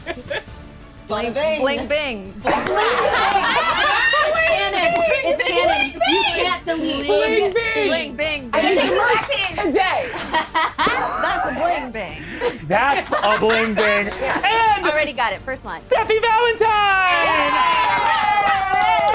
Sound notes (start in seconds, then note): 0.0 laughing; 2.4 laughing; 8.7 overlapping chatter